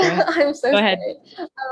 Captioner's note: chuckles